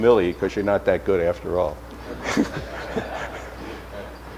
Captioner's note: audience laughter